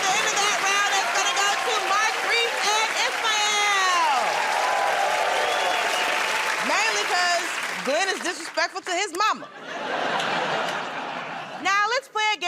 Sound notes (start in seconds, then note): 4.3 cheers and applause; 9.3 laughter